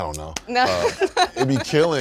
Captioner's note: laughing